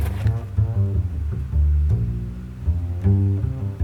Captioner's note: honey dripping